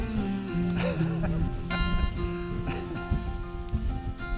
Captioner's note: laughing